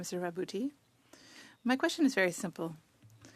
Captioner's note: speaking French